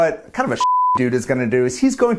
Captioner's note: beep